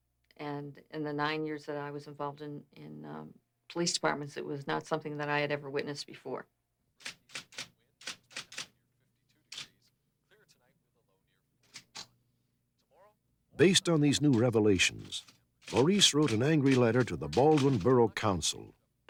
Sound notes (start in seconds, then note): 8.0 typewriter sounds